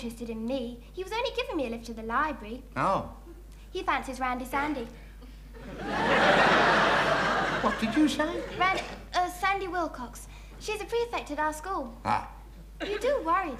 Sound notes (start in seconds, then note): 5.6 audience laughing